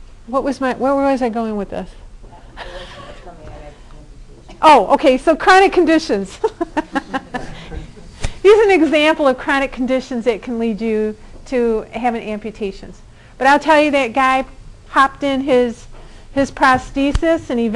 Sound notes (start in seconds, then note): 6.3 laughing